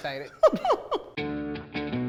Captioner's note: laughs; determined music